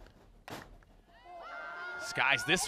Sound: cheering

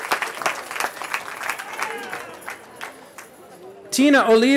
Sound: cheering

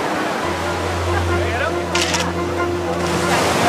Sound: camera clicking

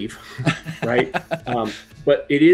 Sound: laughs

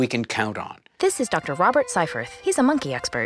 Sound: voiceover

